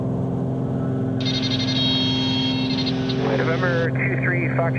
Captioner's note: beeping